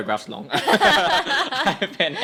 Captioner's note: both laughing